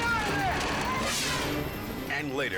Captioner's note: scene swooshing